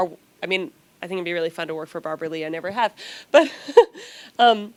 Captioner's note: laughs